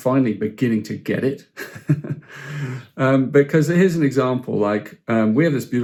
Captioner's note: chuckles